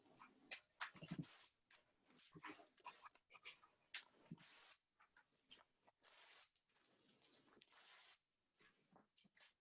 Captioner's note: sound of ripping paper